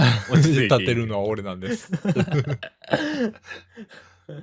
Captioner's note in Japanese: 笑い